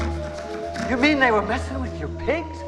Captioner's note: Buddy snorts